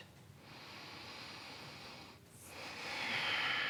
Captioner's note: inhales and exhales